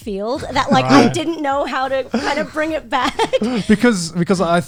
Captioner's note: laughs